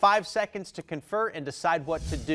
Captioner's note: text whooshing